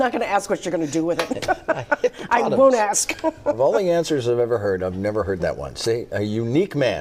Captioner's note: laughter